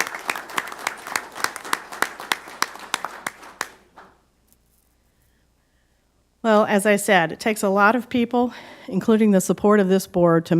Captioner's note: applause